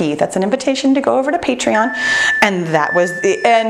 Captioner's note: timer beeps